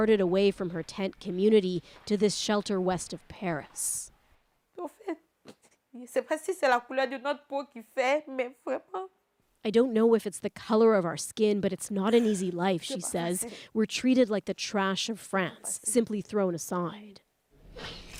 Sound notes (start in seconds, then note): 7.2 speaking French; 8.1 crying